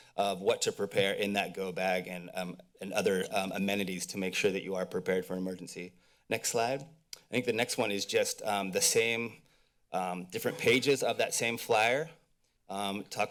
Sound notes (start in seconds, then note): 7.0 mouth clicks